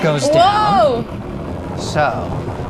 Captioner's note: low pitch ringing